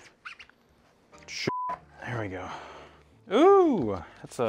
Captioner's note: beep